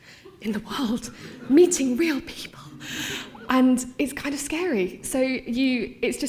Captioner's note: laughter